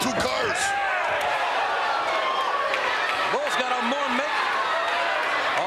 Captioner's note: applause